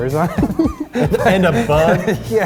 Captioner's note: laughing